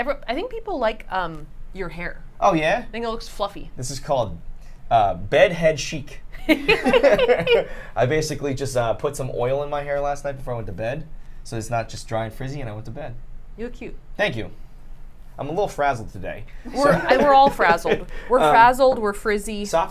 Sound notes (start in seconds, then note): 6.4 laughter